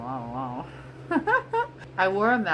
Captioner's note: laughs